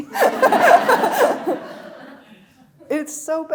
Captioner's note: laughing; audience laughing